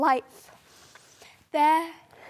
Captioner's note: soft breathing